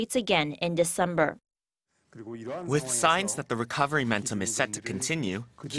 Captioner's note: Korean